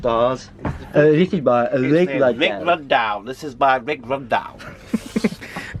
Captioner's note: giggles